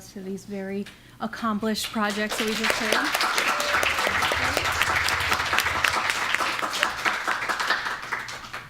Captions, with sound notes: to these very accomplished projects that we just heard. [APPLAUSE]